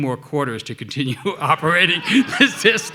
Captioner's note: audience laughing; laughing